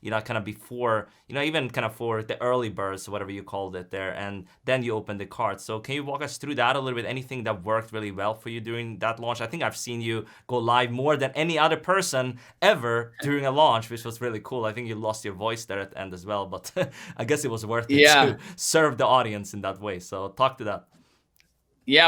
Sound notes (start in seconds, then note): 17.9 laughs